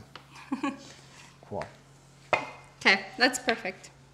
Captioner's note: laughs